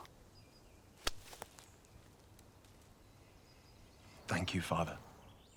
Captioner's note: hands clasp